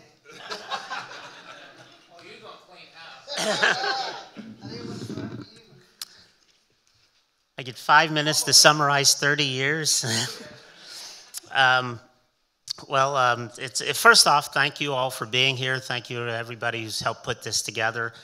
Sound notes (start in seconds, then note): 0.2 audience and panelists laughing; 3.2 audience and panelists laughing; 10.1 chuckles